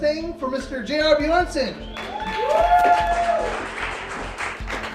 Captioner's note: cheers, applause